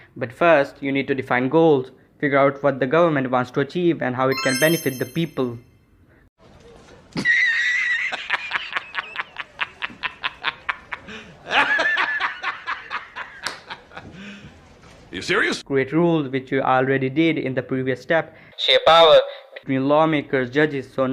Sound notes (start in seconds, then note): 7.2 laughter